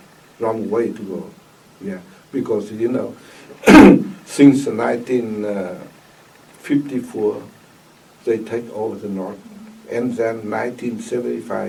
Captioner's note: coughs